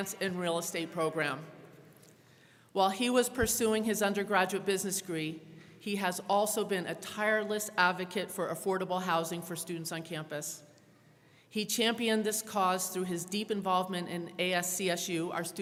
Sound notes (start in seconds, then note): none